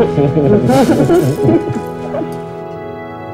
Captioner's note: Both giggle